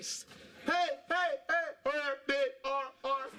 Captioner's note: imitating echo